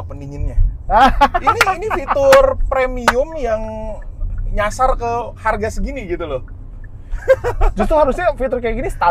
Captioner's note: laughing